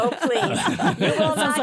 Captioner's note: laughter